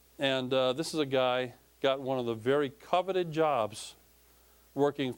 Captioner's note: none